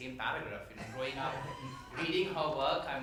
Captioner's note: some members laughs